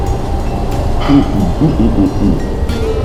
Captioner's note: happy grunting